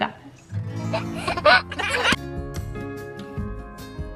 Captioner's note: baby giggling; joyful upbeat music